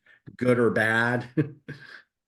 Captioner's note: laughs